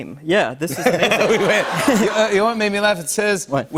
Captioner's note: laughter